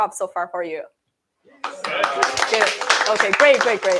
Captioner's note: applause